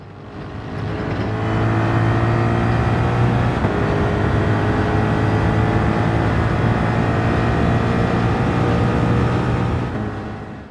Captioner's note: engines revving, cars noises